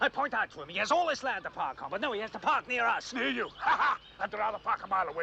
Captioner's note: laughs